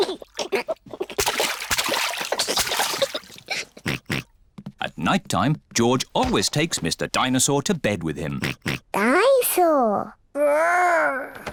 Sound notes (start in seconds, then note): 0.1 giggles; 3.8 oinks; 8.3 oinks